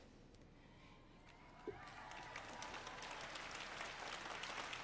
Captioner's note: cheering and applause